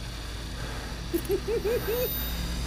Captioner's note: laughs